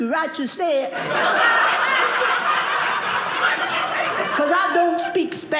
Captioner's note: audience laughing